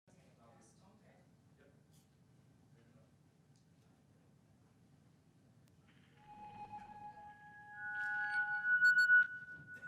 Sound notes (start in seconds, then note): 0.9 people chattering quietly; 6.2 shrill digital music